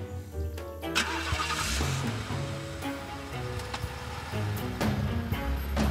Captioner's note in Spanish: Ruido al encender el motor